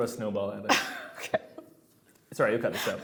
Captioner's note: laughing